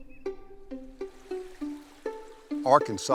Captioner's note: gentle playful music; water sloshing